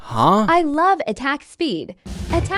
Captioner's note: in a shitty TikTok TTS voice